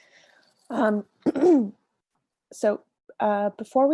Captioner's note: clears throat